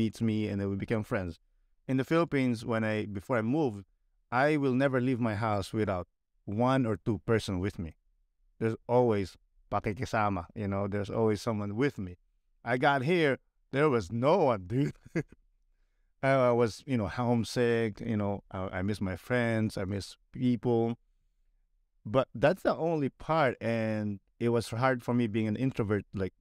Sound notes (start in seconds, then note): 14.7 laughter